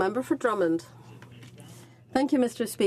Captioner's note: speaking French